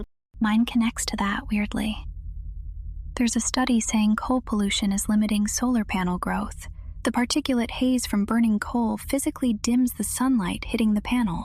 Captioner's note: whispers